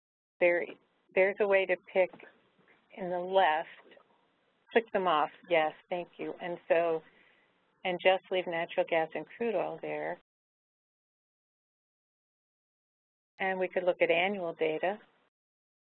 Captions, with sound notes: there, there's a way to pick in the left. (Someone whispering to Barbara) Pick them off yes—thank you. And so, and just leave natural gas and crude oil there. And we can look at annual data.